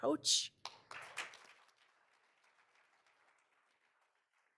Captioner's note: all applauding